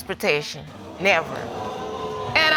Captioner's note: audience gasping